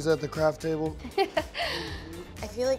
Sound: laughing

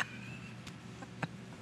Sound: laughter

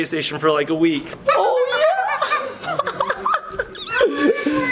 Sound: laughs; toy squeaking

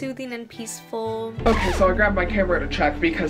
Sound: record scratches

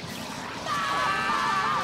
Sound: screaming

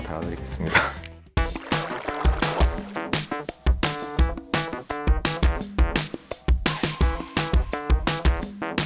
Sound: clap

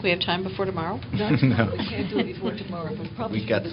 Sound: laughter

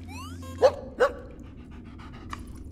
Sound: barking

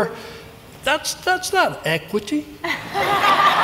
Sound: laughter

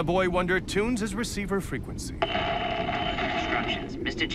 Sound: static crackles

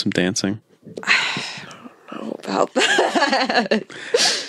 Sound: laughs

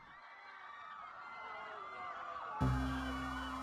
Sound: distant screaming

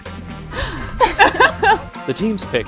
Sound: laughs

